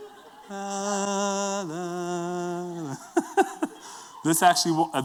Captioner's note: humming